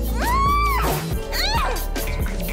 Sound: annoyed groan

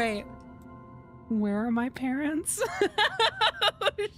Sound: laughter

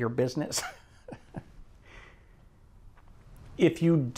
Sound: laughs

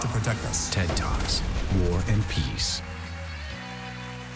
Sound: voiceover; audience cheers and applauds

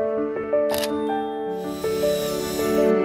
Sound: camera flashing; bionic arm whirring

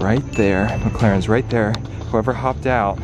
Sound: bell dings

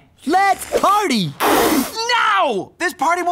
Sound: splutters

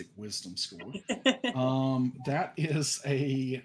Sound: laughing

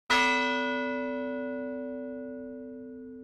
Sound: bell ringing

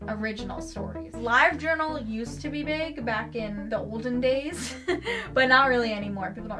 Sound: laughs

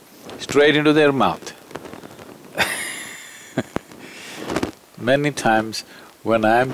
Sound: laughs

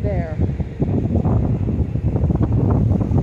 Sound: wind blowing

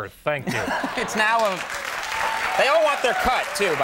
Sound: audience cheering

